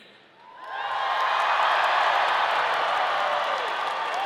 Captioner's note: audience cheering